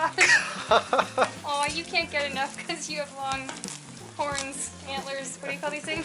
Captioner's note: laughter